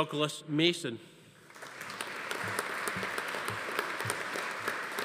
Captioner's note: audience applauding